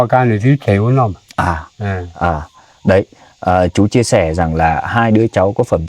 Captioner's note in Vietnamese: hắng giọng